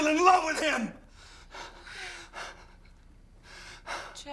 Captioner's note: heavy breathing